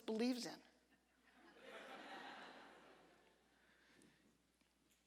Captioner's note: audience laughter